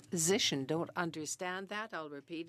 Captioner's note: speaking French